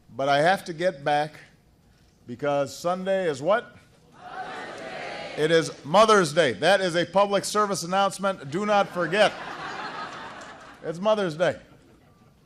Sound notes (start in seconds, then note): 10.0 laughter